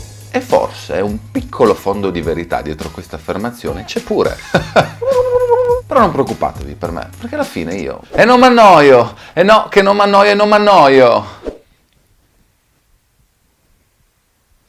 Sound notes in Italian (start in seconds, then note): 4.3 risata e smorfia; 11.4 Attimi di silenzio